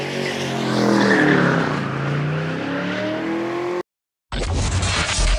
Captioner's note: car tires screeching